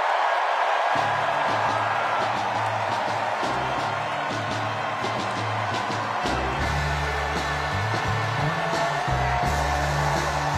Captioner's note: cheers and applause